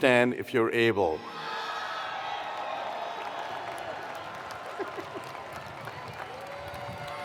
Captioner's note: attendees cheering; attendees applauding